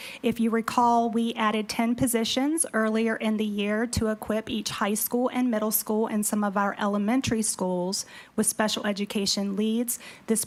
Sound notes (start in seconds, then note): none